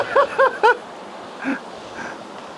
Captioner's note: laughing